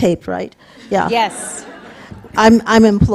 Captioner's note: audience laughing